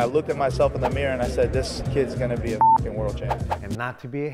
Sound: beep

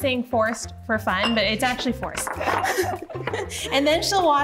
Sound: both laugh

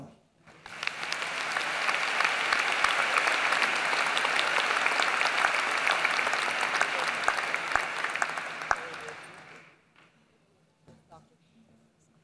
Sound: applause

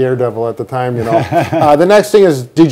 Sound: laughing

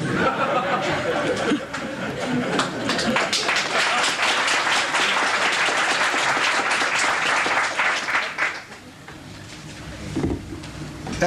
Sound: laughter and Applause

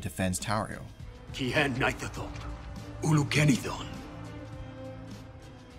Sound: Elvish

